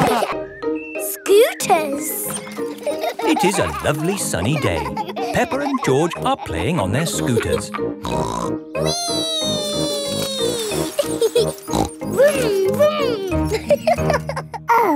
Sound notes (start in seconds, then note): 8.1 snorts; 11.3 laughs and snorts; 12.0 laughing